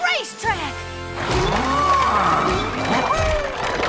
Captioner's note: mooing